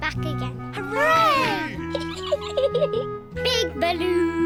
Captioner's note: peppa pig giggles